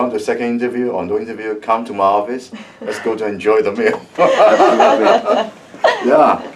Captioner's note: everyone laughs